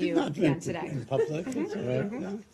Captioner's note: laughter